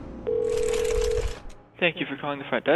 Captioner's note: dial tone